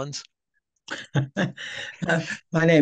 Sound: chuckling

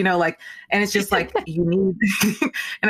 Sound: laughing

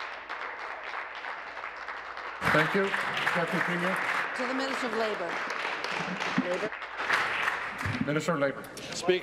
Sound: applause

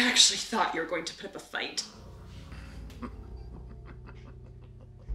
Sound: muffled laughter

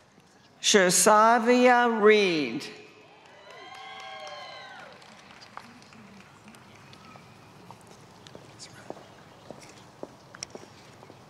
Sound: applause

